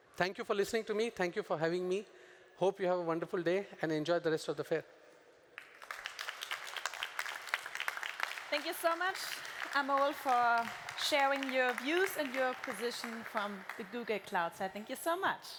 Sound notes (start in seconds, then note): 5.4 applause